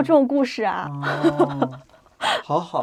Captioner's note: laughs